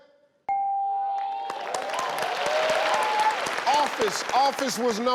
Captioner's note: bell chimes